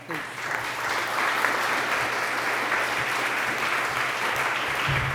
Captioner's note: applause